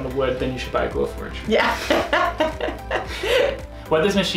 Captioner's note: chuckles